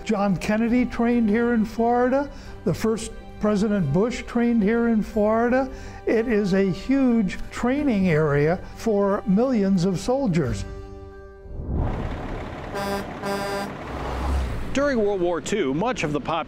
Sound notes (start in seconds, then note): 12.6 truck horn